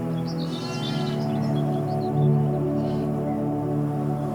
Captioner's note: sheep bleating